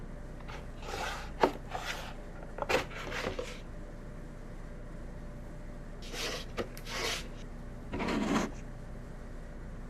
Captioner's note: cardboard and papers moving